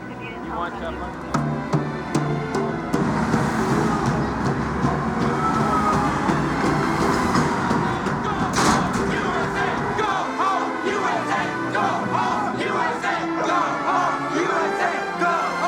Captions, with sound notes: [CROWD BEATING DRUMS] [CHANTING] -GO HOME, U.S.A.! GO HOME, U.S.A.! [CROWD CHANTING]